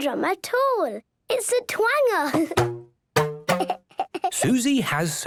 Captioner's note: giggling